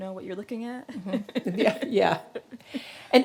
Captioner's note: laughing